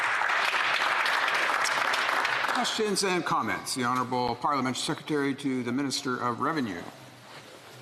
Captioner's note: applause